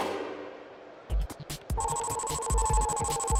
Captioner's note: electronic pulsing